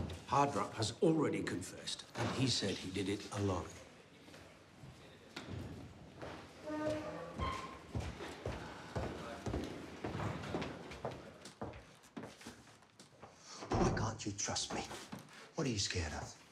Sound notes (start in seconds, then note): 0.0 door slams; 11.1 footsteps clack